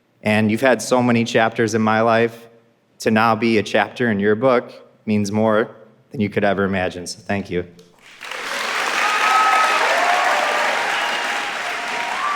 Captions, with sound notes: And you've had so many chapters in my life. To now be a chapter in your book means more than you could ever imagine, so thank you. (audience applauding)